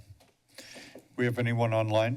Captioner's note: inhales deeply